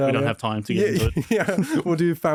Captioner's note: laughs